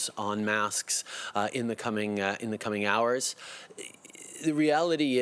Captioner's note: speaking French